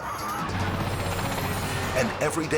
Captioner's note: plane roaring